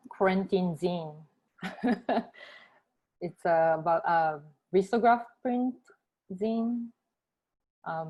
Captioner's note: laughter